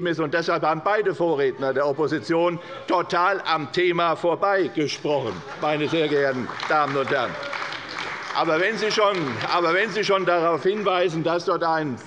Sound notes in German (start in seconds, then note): 5.2 Beifall bei der CDU